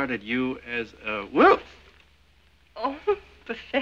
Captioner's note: exclaiming